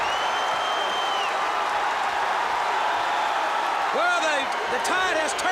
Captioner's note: crowd cheering